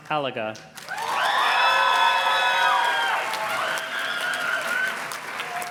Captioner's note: audience cheers and claps